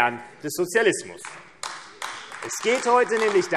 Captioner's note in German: Beifall AfD